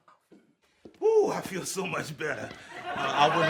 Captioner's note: audience laughs